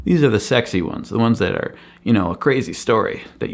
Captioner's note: none